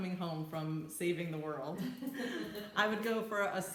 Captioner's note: laughs